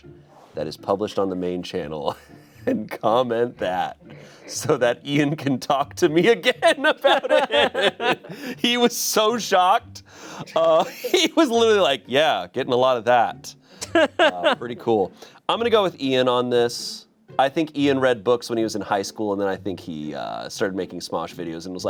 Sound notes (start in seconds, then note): 6.6 everyone laughs; 13.8 laughs